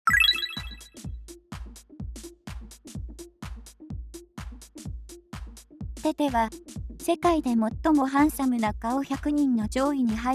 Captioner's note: tete language